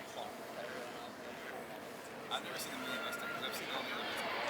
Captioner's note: crowd chattering